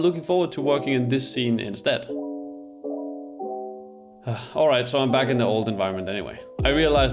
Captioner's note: sigh